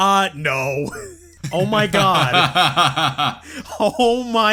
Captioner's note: laughs